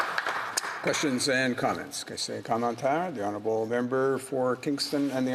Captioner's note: some applause